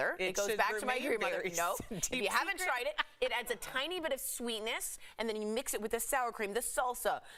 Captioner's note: laughter